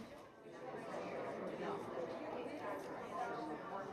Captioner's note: background chatter